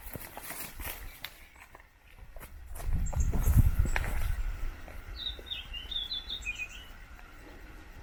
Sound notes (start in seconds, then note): 5.0 bird chirping